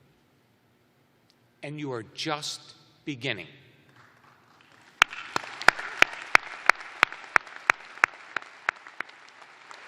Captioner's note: applause